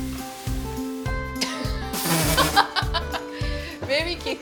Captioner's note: soft upbeat music; both laughing